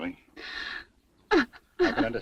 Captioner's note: Julie sobbing